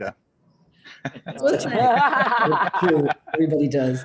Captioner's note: laughter